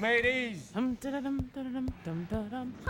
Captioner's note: humming to herself